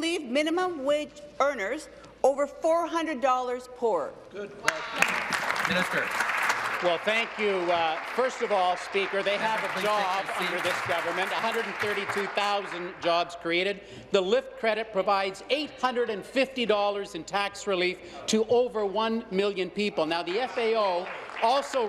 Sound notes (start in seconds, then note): 9.3 some Applause